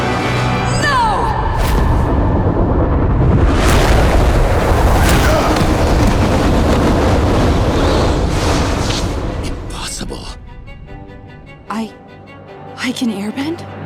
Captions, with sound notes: No! [grunting] Impossible. I... I can airbend?